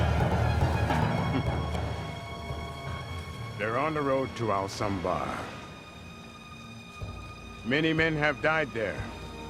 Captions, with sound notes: (somber orchestral music) - (lightly chortles) They're on the road to Ahlsohnbar. Many men have died there.